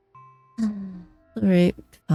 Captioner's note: sighs